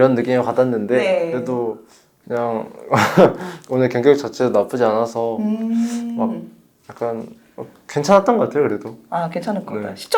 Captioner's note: laughs